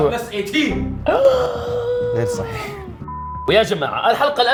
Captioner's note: gasps